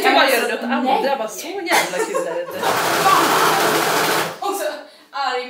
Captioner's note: angry sewing machine noises